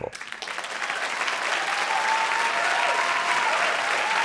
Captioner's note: cheers and applause